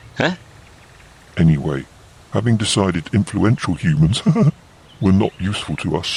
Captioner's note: laughs